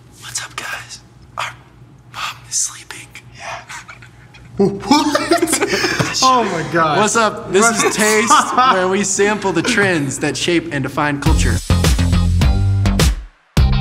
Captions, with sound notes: - What's up, guys? Our mom is sleeping. - Yeah. What? (laughing) Oh my God. - What's up, this is Taste, where we sample the trends that shape and define culture. (upbeat music)